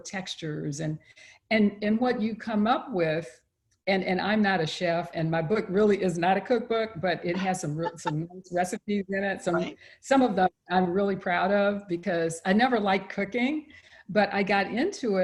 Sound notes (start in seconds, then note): 7.3 laughs